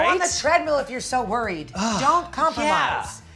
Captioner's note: sighs